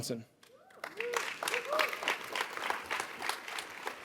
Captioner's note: audience applauds